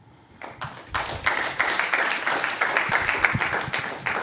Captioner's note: applause